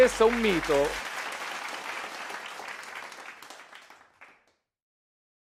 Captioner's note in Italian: Applauso